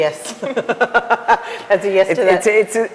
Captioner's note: group laughs